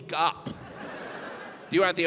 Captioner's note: audience laughs